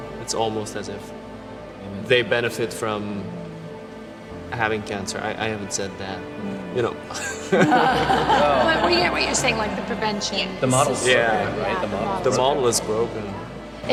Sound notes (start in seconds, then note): 7.0 all laughing